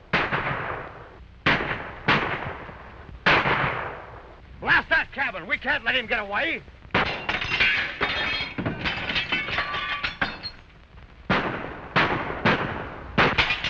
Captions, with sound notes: Blast that cabin! We can't let him get away! [glass breaking] [gunshots]